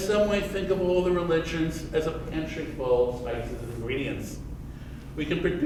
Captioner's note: none